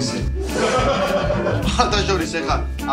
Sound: laughing

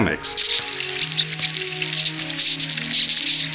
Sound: insects chirping; gentle electronic music

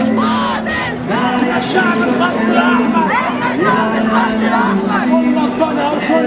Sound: chants

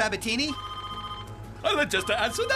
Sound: phone Ringing

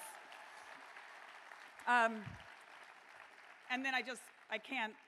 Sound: cheering

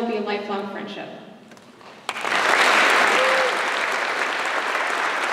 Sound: applause

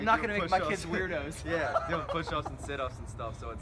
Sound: laughter

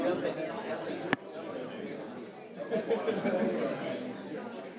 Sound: all chattering

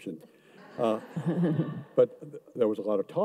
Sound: audience laughs

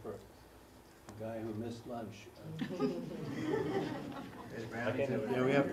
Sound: laugh

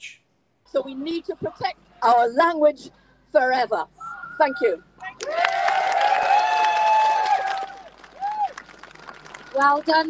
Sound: crowd cheers

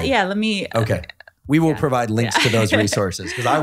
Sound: laughing

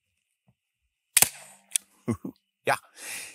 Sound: shot fires

